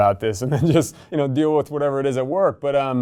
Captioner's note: chuckles